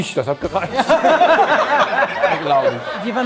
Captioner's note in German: Lachen